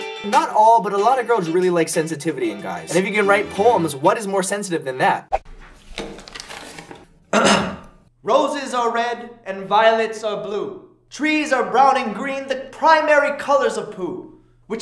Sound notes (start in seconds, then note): 7.3 clears throat